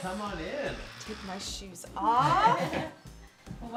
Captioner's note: laughs